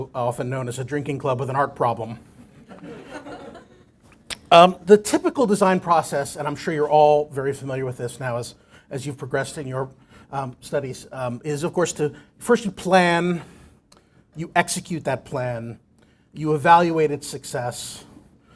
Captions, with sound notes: BUT, WE'RE ALSO OFTEN KNOWN AS A DRINKING CLUB WITH AN ART PROBLEM [LAUGHTER]. THE TYPICAL DESIGN PROCESS, AND I'M SURE YOU'RE ALL VERY FAMILIAR WITH THIS NOW AS YOU PROGRESS IN YOUR STUDIES IS OF COURSE FIRST PLAN, YOU EXECUTE THAT PLAN.